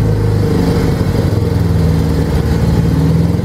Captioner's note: engine slows down